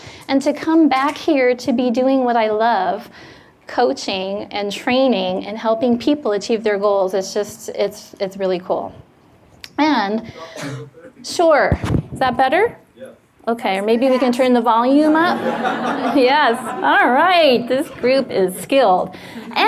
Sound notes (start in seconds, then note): 15.1 audience laughs